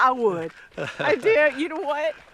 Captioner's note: chuckling